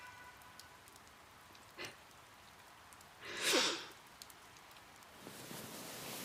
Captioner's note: starts crying softly